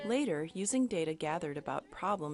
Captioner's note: voiceover